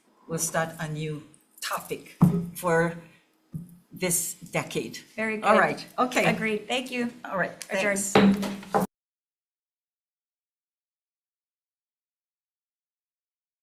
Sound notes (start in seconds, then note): 8.1 gavel clanks